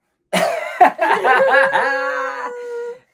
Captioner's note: both laugh